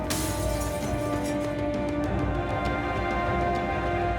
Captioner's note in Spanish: Estruendo de vidrios